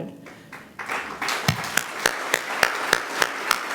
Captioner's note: applause